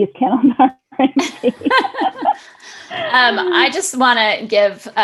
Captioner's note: both laughing